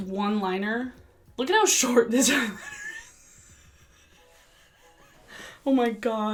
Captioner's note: laughs